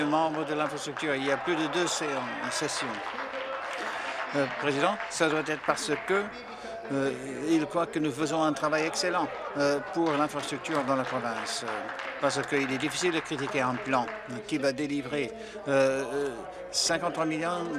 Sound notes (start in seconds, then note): 5.4 applause